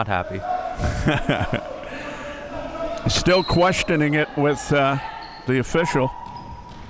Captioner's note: laughing